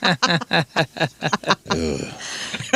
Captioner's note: laughing